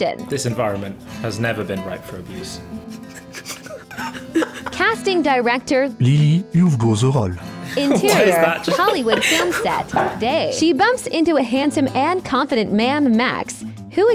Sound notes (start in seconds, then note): 3.0 chuckling; 4.8 AI Voice; 6.1 male AI Voice; 7.9 AI Voice